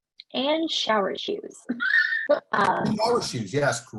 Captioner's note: laughs